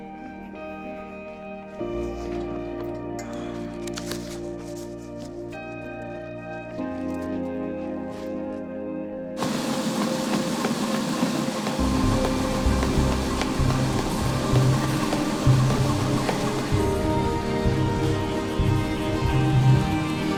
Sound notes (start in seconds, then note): 0.2 expressive guitar over dramatic electronic music; 9.6 treadmill whirring loudly over dramatic electronic music